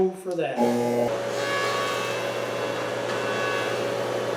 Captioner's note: machine humming